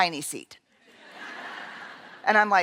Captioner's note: laughter